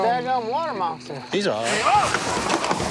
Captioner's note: screaming